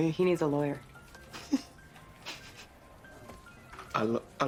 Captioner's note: laughing